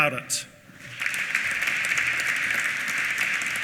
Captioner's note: applause